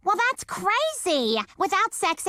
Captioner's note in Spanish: none